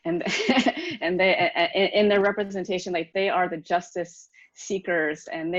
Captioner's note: laughs